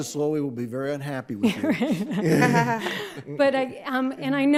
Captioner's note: all laugh